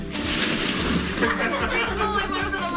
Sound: family laughs

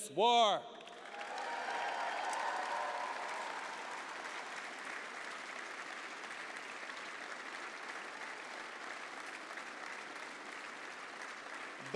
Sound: applause

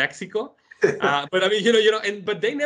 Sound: laughs

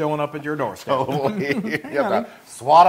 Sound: laugh

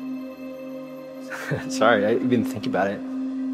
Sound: chuckles

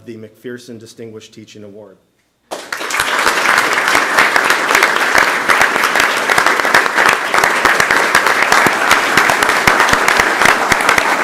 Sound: applause

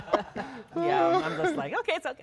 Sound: laughter

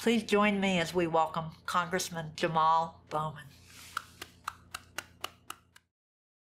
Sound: clapping

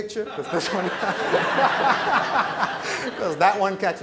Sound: laughter

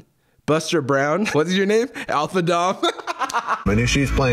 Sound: laughs

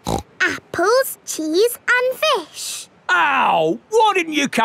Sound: snorts

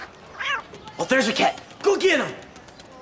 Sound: meow

